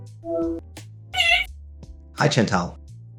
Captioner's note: Chantal through phone